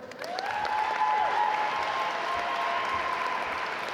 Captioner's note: audience applaud